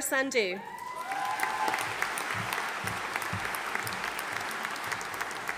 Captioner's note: audience applauding